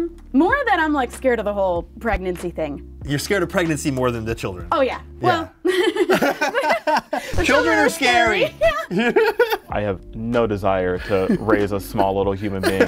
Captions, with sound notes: More than I'm scared of the whole pregnancy thing. -You're scared of pregnancy more than the children. -Oh, yes. [laughter] -Children are scary. -I have no desire to raise a small little human being.